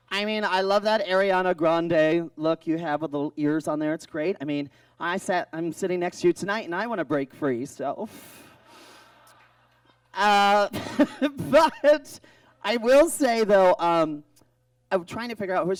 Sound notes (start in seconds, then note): 8.6 audience groans; 10.4 laughs